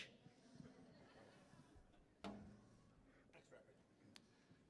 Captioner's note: audience laughing